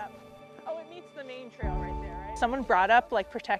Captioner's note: background chattering